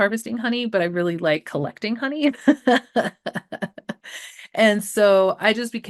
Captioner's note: laughing